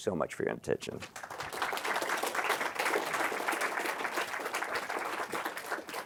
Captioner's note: applause